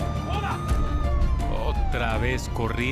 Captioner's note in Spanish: Sirenas